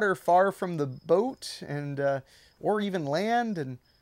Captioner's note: none